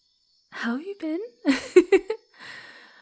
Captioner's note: giggles